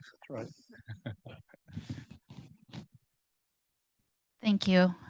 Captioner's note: laughing